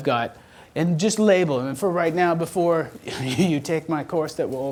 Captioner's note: laughs